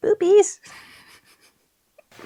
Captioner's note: giggles